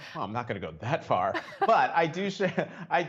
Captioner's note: laughter